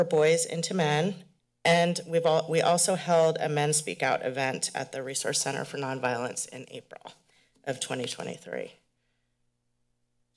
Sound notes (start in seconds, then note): none